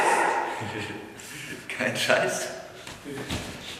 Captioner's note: giggles